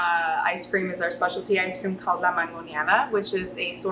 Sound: speaking Spanish

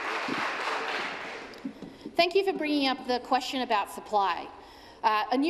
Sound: applause

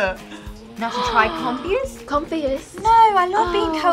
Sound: gasps

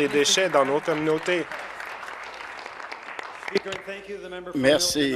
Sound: applause

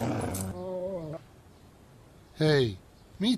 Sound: dog SFX

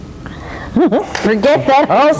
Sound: laughs

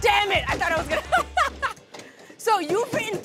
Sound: laughs

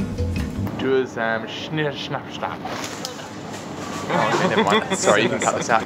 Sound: speaking foreign language terrible

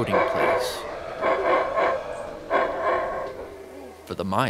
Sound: ape howling

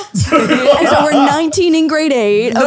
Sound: speakers laughing

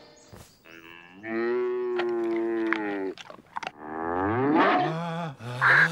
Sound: moo-woof!

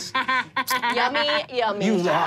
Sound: laughs

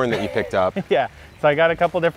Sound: laughing

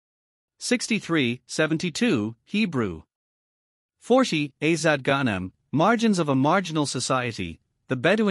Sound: Hebrew

